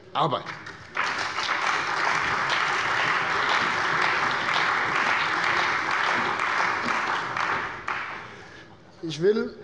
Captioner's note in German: Allgemeiner Beifall